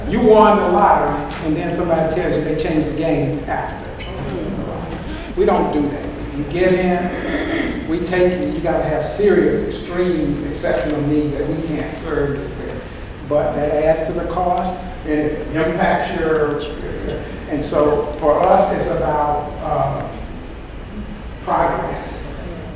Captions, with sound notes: You won the lottery and then somebody tells you they changed the game afterwards. We don't do that. If you get in, we take you. You've gotta have serious, extreme, exceptional needs that we can't serve but that adds to the cost, it impacts your... (audience murmurs) and so for us it's about progress.